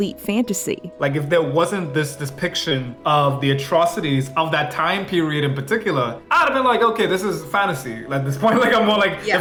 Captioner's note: foreign